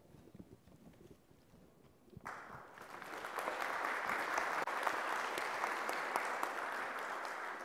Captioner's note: applause